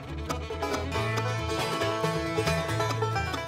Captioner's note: none